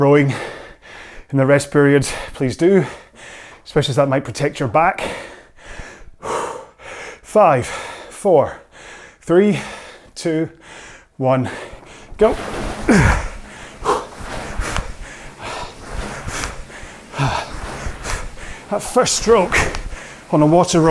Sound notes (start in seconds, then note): 9.5 grunts